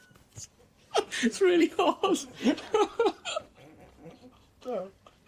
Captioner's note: laughter